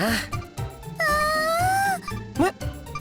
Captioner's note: gasp